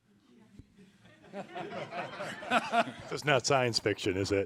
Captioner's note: team laughing